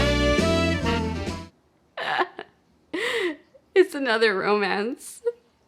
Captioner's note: laughing